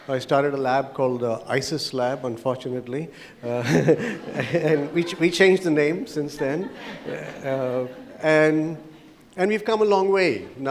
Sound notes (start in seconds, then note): 3.4 audience laughs; 3.5 laughs; 7.0 audience laughs